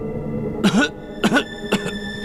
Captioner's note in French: Tousse